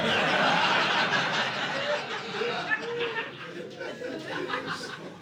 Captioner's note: audience laughing